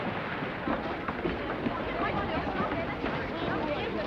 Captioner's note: people murmuring